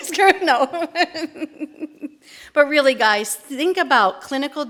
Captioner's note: laughter